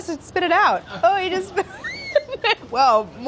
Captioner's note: laughs